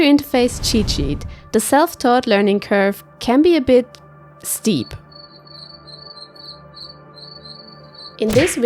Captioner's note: cricket sounds